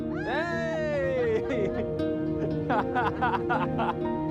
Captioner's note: cheering